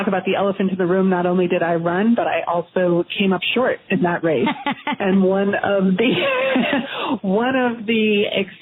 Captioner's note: laughter